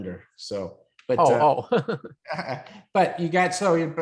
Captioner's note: laughs